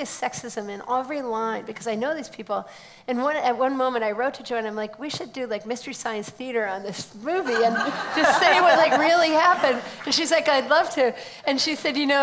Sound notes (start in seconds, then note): 7.5 laughs